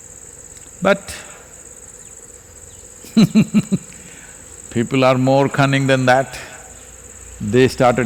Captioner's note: laughs